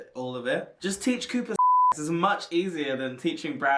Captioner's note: beep